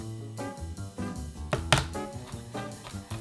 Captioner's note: knife smashing